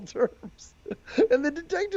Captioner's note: laughs